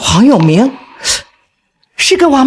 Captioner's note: gasps